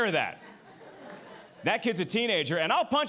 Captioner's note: audience laughing